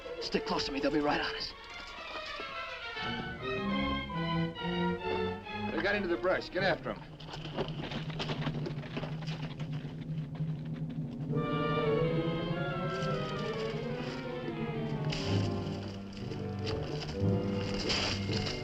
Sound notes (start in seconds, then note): 2.9 dramatic music; 8.4 dramatic music; 9.3 horse hooves clopping; 11.4 dramatic music